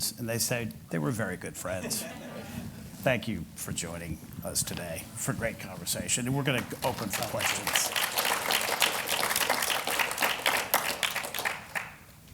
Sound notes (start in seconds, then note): 1.8 laughter; 8.3 applause